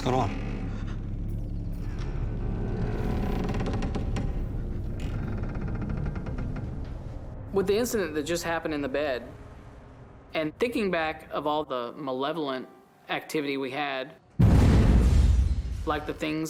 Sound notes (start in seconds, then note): 2.1 creaking; 14.4 thunderous boom